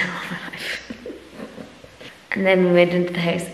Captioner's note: laughs